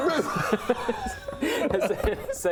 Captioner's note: lame laughter